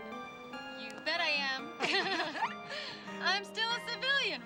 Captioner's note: laughs